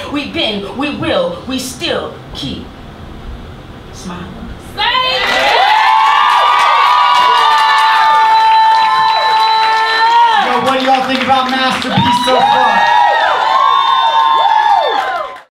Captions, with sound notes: We've been, we will, we still keep smiling. (audience cheers and applauds)